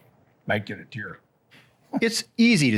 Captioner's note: chuckles